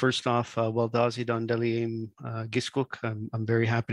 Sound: speaks in Indigenous language

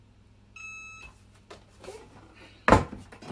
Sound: beeping

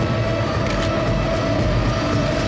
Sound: gun cock

